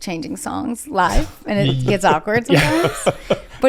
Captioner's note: laughing